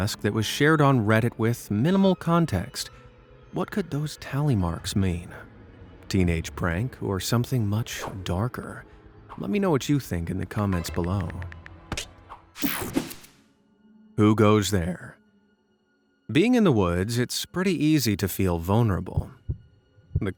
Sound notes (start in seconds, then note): 12.4 person typing